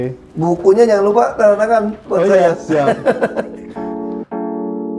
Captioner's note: laughing